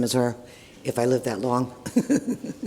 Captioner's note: laughs